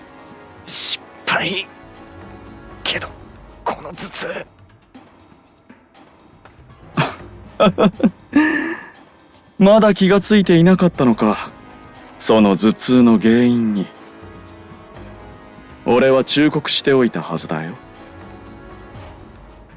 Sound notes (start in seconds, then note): 7.5 laugh